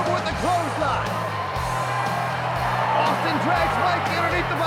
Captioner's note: audience cheers